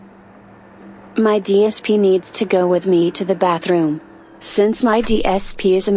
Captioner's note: automated voiceover